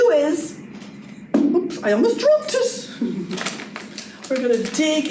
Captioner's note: giggles